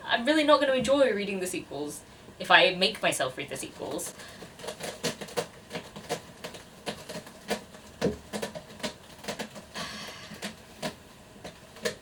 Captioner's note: cat scratching a scratching post